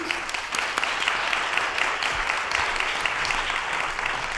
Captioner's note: applause